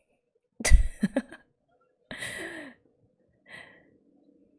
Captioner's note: laughs